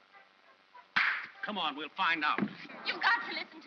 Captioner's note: claps hands